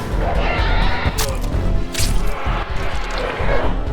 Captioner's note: gunfire; stabbing, blood splattering; whoosh